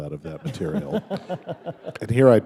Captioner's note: laughter